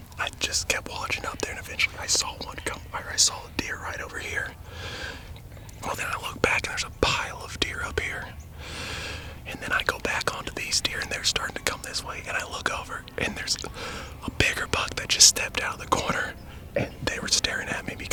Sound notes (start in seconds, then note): 9.9 whispering